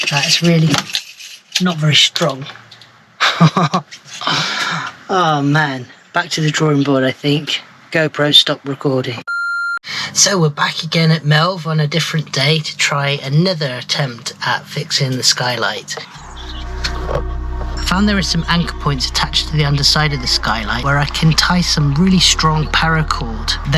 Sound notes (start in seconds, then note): 5.2 laughter; 9.2 sound of a beep